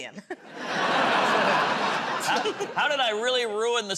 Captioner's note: laughter; chuckles